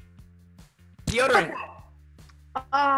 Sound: timer rings

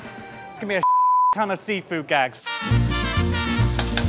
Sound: beep; fun lighthearted music

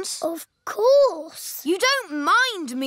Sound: none

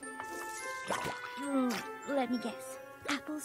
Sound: pop!

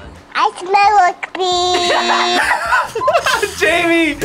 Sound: laughs

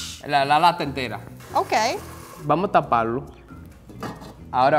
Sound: speaking in foreign language

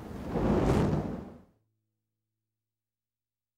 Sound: fire whooshes

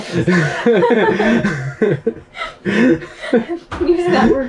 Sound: both laugh

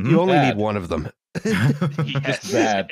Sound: laughter

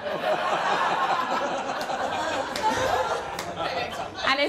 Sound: laughter

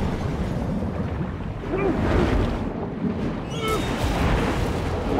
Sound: muffled grunting

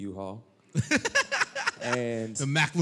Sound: laughter

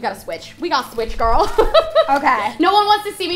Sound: laughter

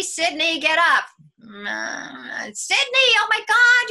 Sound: groaning

